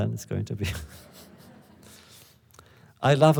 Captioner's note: laughter